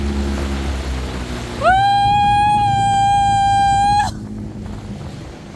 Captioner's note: screams